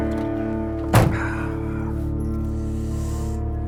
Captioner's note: sighs